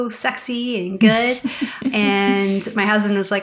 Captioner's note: laughter